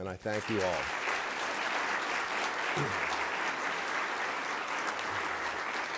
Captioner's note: applause